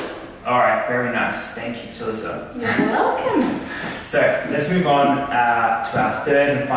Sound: laughter

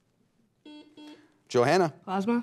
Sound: buzzer beeps

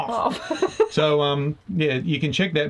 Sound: laughing

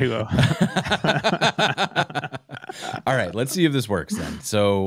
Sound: laughter

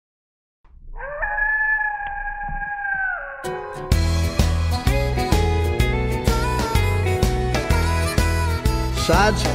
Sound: coyote howls

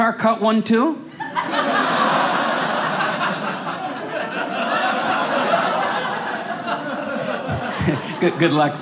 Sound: audience laughing

